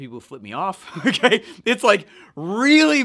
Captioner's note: laughs